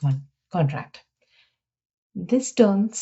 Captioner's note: silence